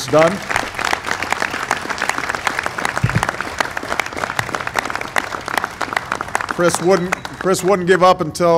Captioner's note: applause